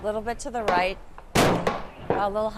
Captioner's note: gunfire